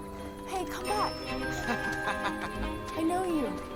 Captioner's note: man laughing